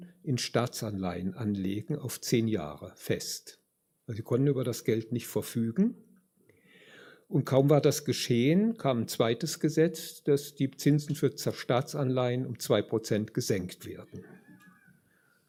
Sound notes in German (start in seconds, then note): none